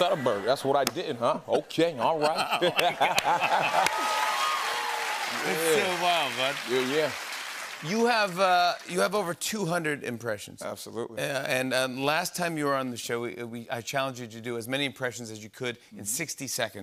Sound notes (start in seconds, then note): 2.2 laughter; 6.4 normal voice